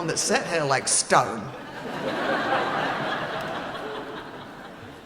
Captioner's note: laughing